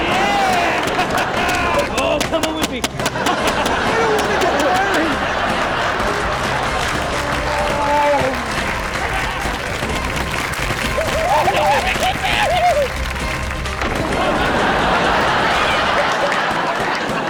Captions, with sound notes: - Yeah, ha ha ha! You're all comin' with me! (audience laughing and men grunting) - No! (maniacal laughter) - (high pitched screaming) No, let me get out of here! (audience laughing)